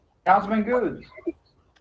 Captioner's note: ~audio distortion~